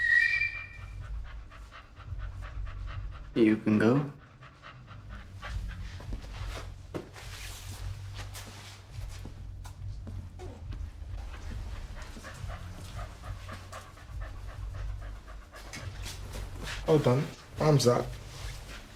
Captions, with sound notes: (man whistling) You can go. (dog panting) - Hold on, arms out.